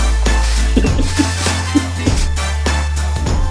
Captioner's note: giggling; upbeat music